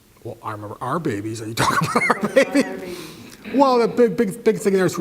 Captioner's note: laugh